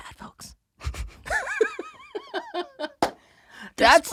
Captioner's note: both laughing